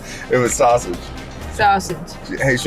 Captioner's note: laughs